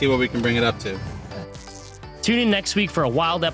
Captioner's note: upbeat music; tape unwrapping